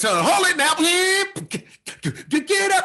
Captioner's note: imitates hip hop beats